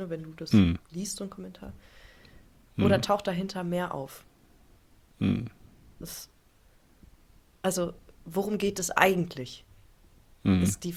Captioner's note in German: schnauben